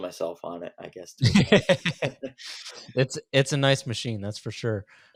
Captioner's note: laughs